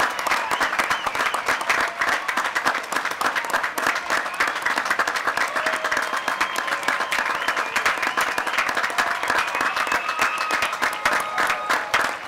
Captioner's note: applause